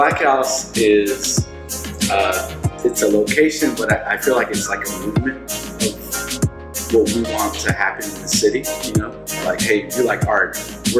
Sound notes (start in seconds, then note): none